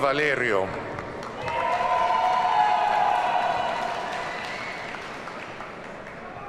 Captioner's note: audience cheers and applauds